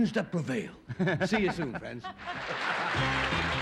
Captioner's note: applause